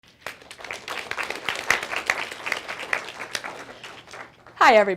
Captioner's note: applause